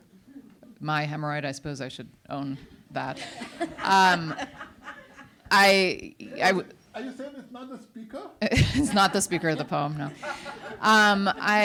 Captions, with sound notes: my hemorrhoid, I suppose I should own that. (audience laughs) - Are you saying it's not the speaker? - It's not the speaker of the poem, no.